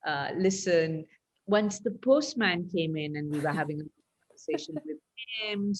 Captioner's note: laughs